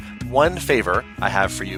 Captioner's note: none